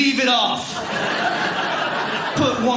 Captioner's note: audience laughing